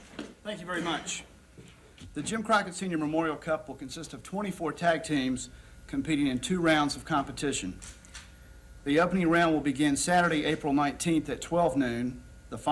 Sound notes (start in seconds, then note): none